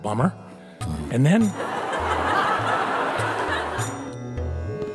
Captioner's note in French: rires